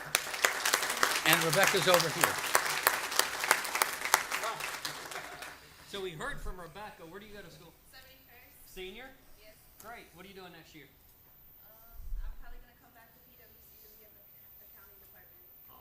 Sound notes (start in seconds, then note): 3.7 applause